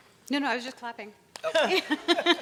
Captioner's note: hands clapping; laughing